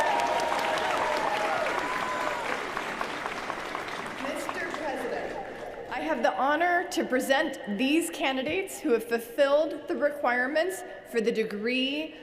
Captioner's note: cheers & applause